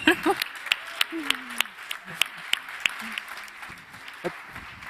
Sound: laughs; audience cheering

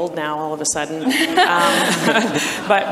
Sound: audience and panelists laugh

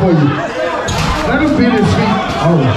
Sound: crowd cheering drowns out speech

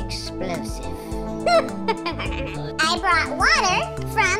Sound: evil laughter

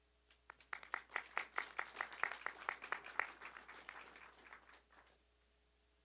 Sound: applause

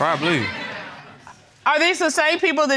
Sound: audience laughing

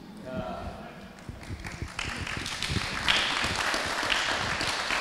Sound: audience applauding

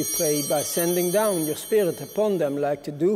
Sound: bell ringing

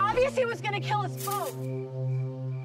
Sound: none

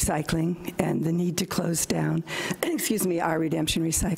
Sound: coughs

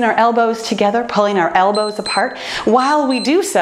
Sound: timer beeps

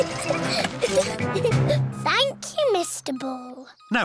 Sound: giggling

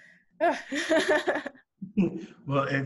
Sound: laughing

